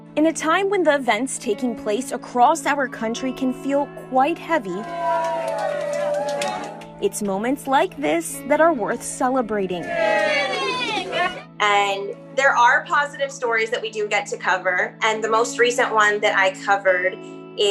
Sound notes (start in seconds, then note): 4.8 cheering, applause; 9.8 cheering